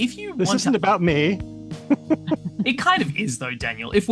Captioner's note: laughs